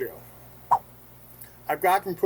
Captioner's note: swipe sound